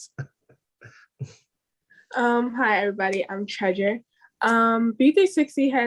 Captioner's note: laugh